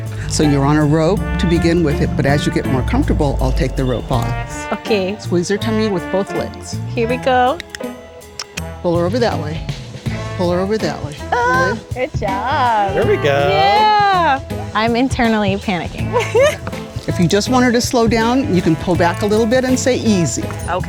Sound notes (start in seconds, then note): 11.7 screams; 16.0 laughs